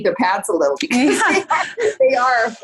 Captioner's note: laughing loudly